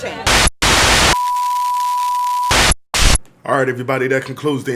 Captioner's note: video buzzing